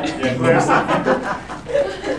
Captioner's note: laughter